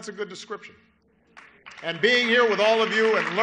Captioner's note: applause